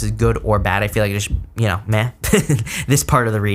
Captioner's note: laughs